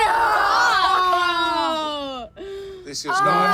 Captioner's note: everyone yells and groans